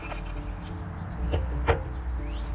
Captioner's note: clank